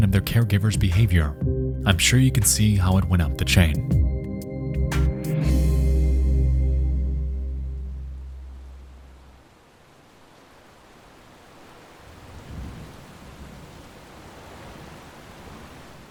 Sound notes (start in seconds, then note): 7.6 rainfall thrumming; 12.2 thunder rumbling